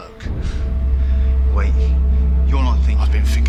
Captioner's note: dramatic noise